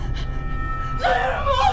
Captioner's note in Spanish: Grita